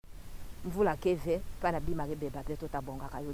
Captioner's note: local language